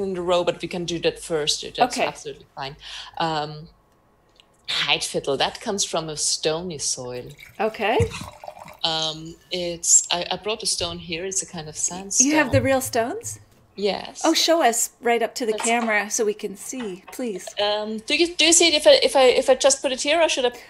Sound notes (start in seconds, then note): none